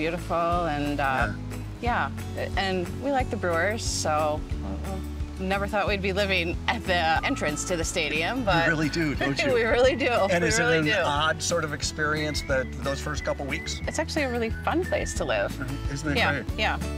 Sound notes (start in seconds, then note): 8.6 laughter